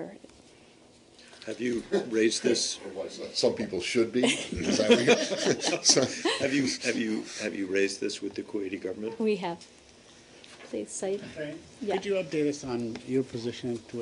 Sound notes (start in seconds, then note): 4.2 laughter